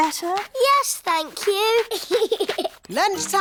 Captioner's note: giggles